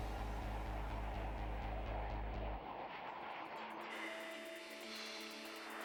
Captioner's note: music/jet taking off